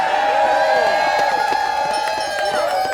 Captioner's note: audience cheering